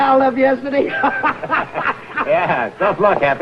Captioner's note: happy laughing